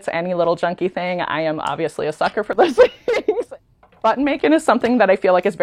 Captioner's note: laughs